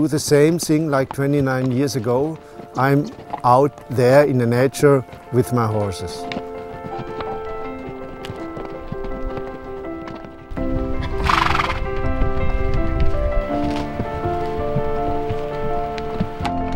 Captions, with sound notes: the same thing like 29 years ago. I'm out there in nature with my horses. (slow inspiring music) (horse neighing) (slow inspiring music continues)